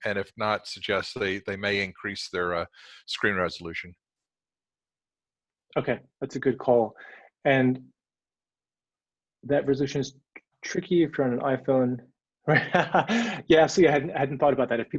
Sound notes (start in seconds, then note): 12.6 laughs